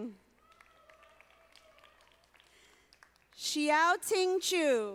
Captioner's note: audience applauding